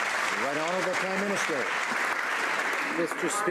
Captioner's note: some Applause